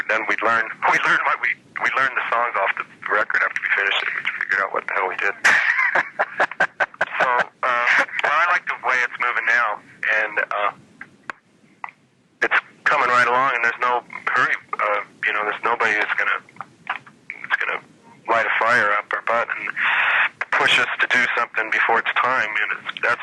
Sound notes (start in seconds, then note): 5.4 laughing